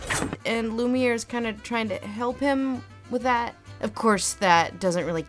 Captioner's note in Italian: voce fuori campo